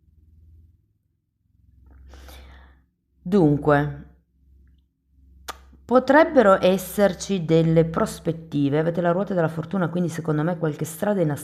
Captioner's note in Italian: sbuffare